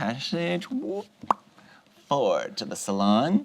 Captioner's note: pops lips